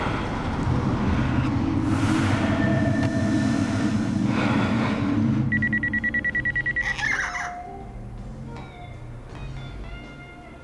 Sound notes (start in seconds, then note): 2.6 man breathing; 5.5 phone ringing; 6.7 kitty squawks